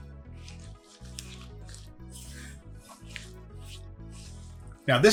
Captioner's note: mixture squelching